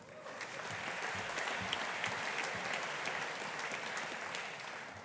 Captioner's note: audience applauding